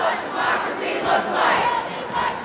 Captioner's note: group chanting; chanting